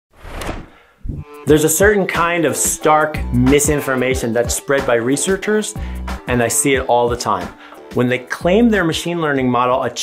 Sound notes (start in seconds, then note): 0.1 sound effect